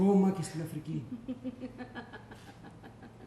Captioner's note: γέλιο